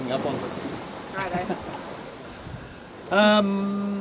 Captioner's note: both laugh